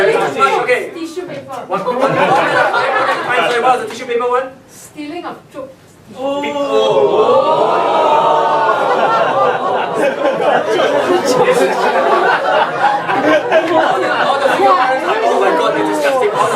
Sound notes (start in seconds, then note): 1.1 indistinct conversation; 7.0 audience reacts